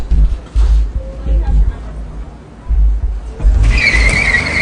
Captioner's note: background chattering; tires screeching